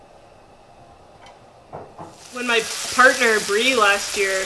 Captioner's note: sizzling